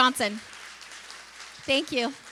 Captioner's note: applause